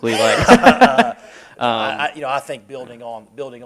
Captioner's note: laughter